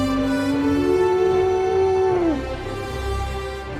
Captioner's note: dinosaur moans